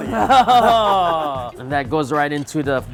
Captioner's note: laughing